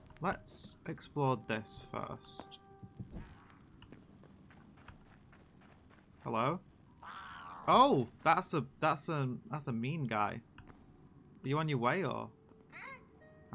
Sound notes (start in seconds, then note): 3.1 distant goblin noises; 7.0 angry goblin noises; 12.4 inquisitive goblin noises